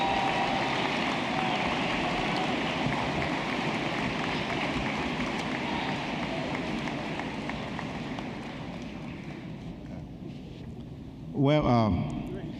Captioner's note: applause